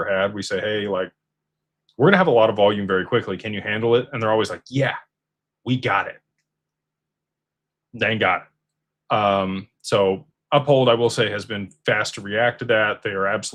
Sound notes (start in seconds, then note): none